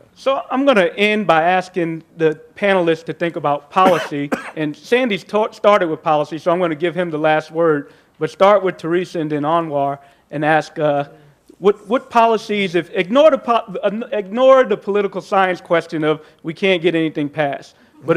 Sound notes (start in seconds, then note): 3.8 coughs